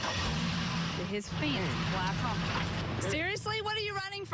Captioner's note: engine revving